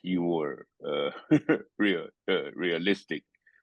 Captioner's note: laugh